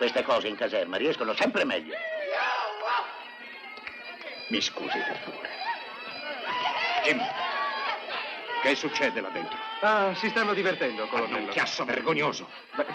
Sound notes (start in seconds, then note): 1.9 men whooping